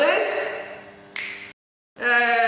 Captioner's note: click